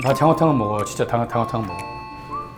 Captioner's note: ding dong